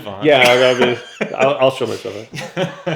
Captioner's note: laughs